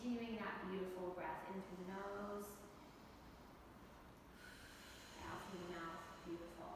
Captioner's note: exhaling; inhaling